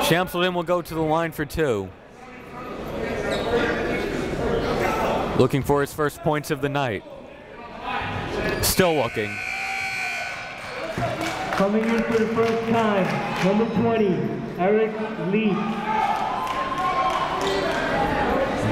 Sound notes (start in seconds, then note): 9.0 buzzer goes off; 15.5 crowd cheering